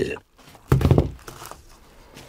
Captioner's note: rumble